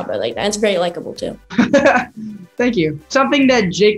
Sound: laughing

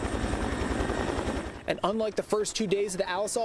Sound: sounds of helicopter

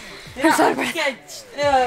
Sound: heavy breathing

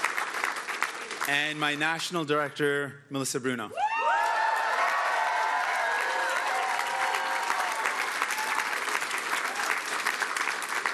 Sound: cheering

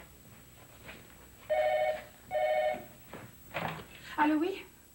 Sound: Téléphone

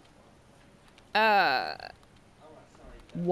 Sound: awkwardly groans

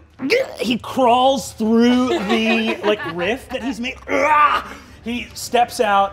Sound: gurgles

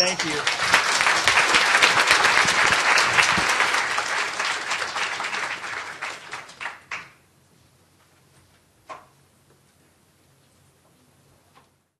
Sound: applause

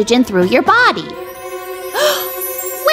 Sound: gasps

